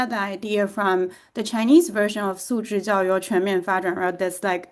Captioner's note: speaks in Chinese